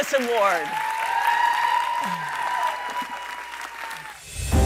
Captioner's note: cheering